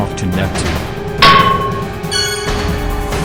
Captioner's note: clang